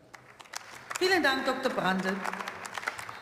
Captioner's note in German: Beifall